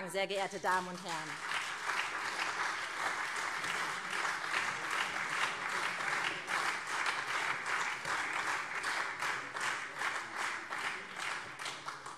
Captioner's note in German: Beifall SPD und vereinzelt CDU